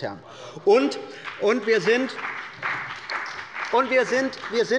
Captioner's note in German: Beifall bei der CDU und dem BÜNDNIS 90/DIE GRÜNEN